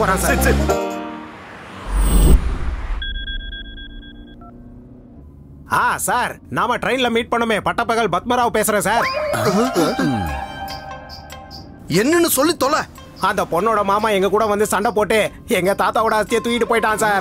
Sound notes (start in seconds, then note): 3.1 phone rings